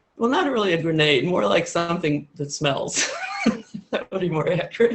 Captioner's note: laughs